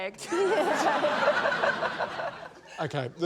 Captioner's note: laughter